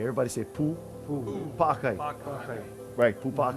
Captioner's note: speaking Hawaiian